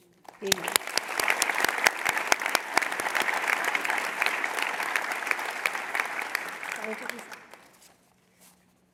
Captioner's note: applause